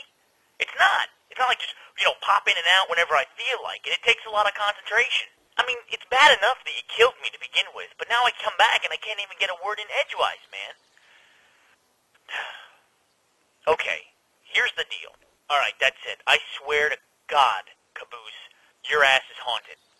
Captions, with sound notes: It's not. It's not like, you know, just pop in and out whenever I feel like it- it takes a lot of concentration. I mean, it's bad enough that you killed me to begin with but now I come back and I can't even get a word in edgewise, man. [Exasperated sigh]. Okay, here's the deal. All right, that's it. I swear to Nicolas Cage, Caboose, your ass is haunted.